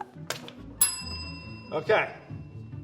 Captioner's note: bell ringing